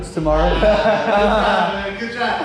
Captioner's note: all laughing